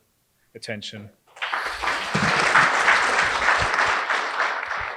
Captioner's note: applause